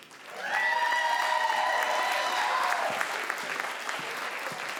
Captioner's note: crowd cheers and applauds